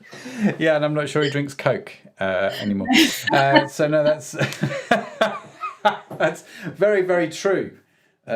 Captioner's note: laughing